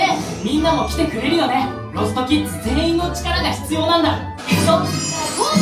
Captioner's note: characters speaking Japanese